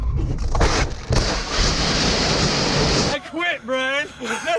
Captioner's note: car crashing